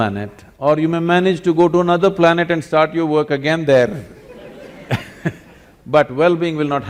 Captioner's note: laughter